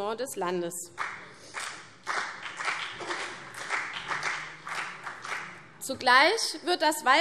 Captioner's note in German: Beifall CDU und vereinzelt BÜNDNIS 90/DIE GRÜNEN